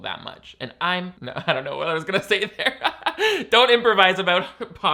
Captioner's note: laughs